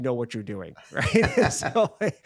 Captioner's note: both laughing